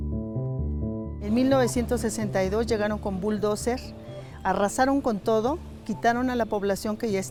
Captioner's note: speaking in foreign language